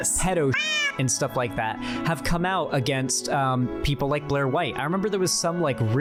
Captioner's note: meow